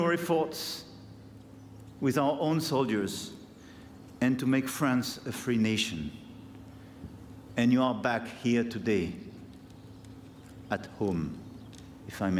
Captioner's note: speaking french